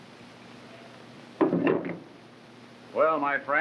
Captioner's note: gun thuds